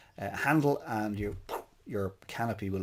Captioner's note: imitates poofing of parachute